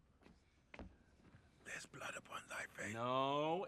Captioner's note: whispering